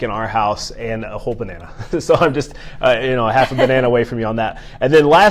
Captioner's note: laughs